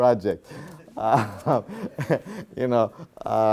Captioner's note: laughs